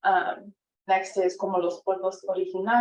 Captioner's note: speaking foreign language